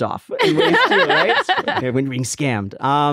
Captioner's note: everyone laughs